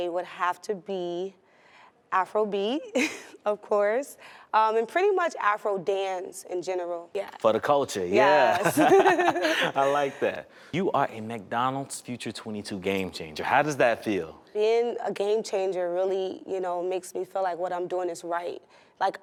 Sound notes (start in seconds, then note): 8.2 both laughing